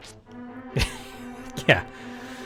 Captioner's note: laughing